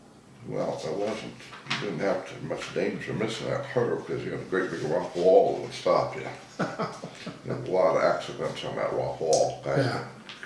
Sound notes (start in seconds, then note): 6.3 laughing